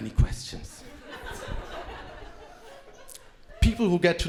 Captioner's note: crowd laughing